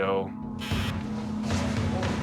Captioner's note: buzzing